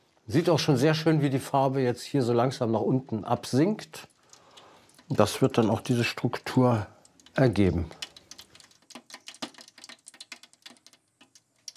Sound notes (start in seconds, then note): 8.8 crackles